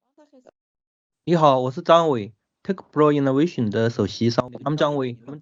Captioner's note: non-english